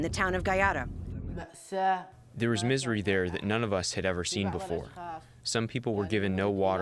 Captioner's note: through translator